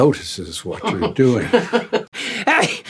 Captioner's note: laughing